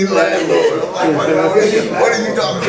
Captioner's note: laughing